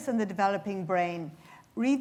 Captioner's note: none